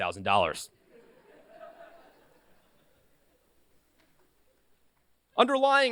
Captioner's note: laughter